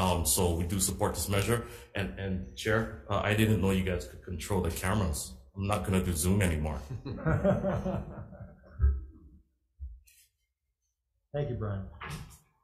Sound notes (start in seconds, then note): 6.8 laugh